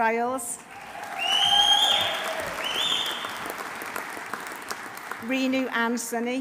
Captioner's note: audience applauding; audience cheering